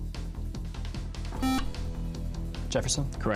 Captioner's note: beep